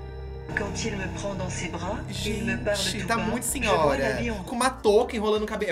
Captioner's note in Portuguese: narração em francês